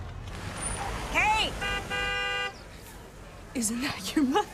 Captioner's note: horn honks